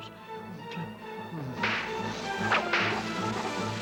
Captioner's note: whip cracking